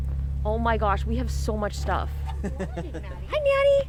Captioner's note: laughing